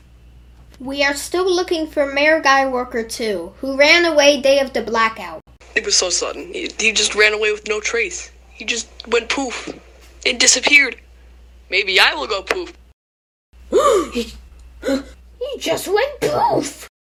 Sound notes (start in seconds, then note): 12.9 goes poof; 13.9 gasp